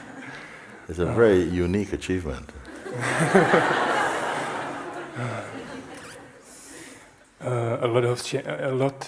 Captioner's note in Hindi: हँसी